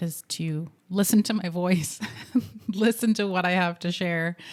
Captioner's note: giggles